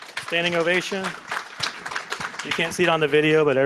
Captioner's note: applause